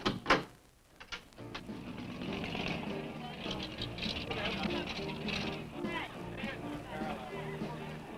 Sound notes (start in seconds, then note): 1.4 upbeat music; 2.1 party goers chattering